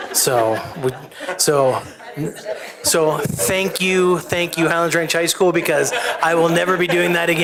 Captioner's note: laughter